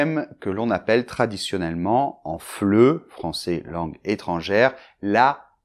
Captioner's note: french Foreiegn Language